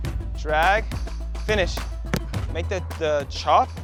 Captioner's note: ball bouncing